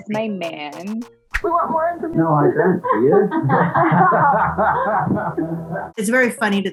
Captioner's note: women laughing